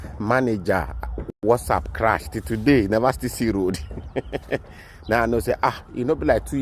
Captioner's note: laughs